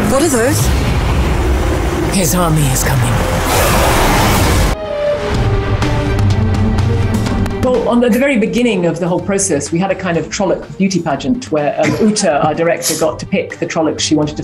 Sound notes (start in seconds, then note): 2.9 roaring